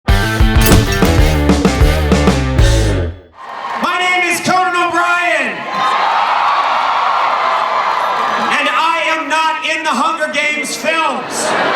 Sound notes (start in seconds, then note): 5.6 crowd cheering